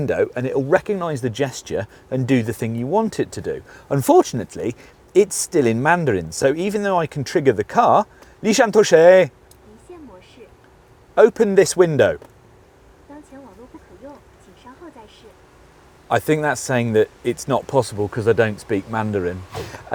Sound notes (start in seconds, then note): 8.3 speaks in mandarin; 9.6 woman speaks in mandarin; 13.0 woman speaks in mandarin